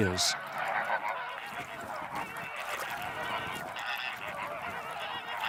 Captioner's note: birds chattering